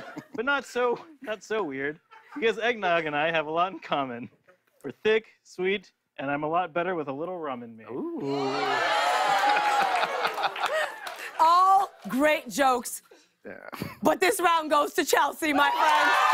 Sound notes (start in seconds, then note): 9.3 laughter